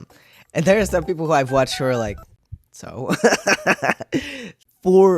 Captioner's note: laughter